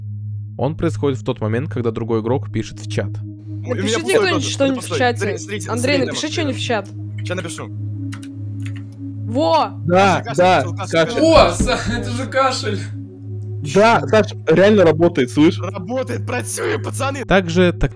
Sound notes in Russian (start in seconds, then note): 3.7 показать кашель